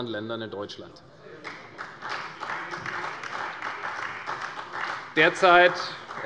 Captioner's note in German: Beifall bei Abgeordneten der CDU